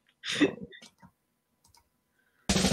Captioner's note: laughter